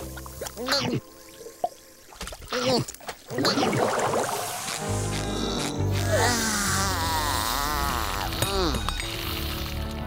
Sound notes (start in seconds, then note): 5.2 sighing